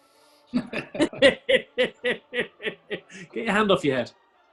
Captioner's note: chuckling